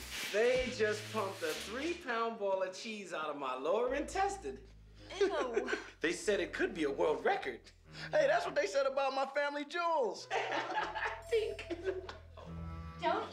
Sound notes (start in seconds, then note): 5.1 laughi ng; 10.3 laughs